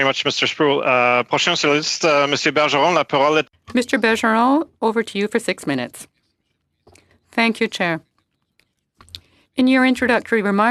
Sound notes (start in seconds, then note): 6.4 speaking French